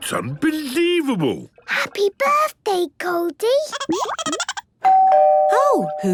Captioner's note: Goldie giggling; doorbell ringing